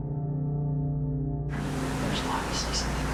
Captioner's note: whispering